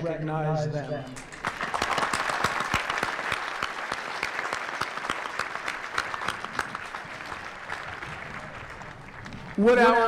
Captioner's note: applause